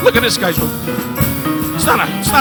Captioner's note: laughs